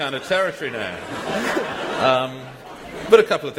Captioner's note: laughter